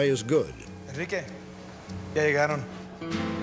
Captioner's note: speaking spanish